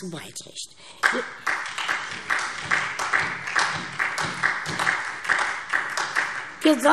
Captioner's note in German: Beifall SPD